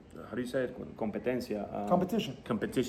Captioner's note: speaking in Spanish